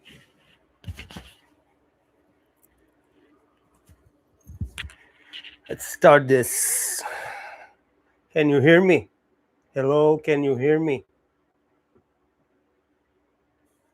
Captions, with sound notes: let's start this. (sighs) Can you hear me? Hello. Can you hear me?